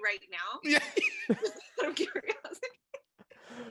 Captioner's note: panelists chuckles